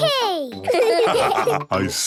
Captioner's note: laughs; all laugh